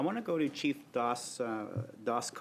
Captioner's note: speaking French